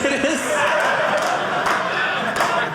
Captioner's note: audience laughing